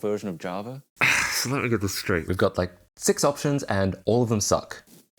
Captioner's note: sighs